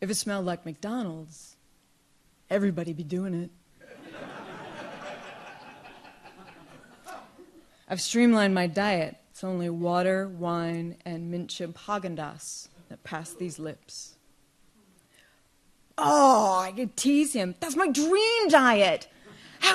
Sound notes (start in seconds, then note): 3.8 audience laughs